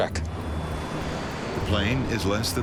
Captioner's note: engine roars